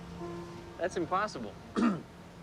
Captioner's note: clears throat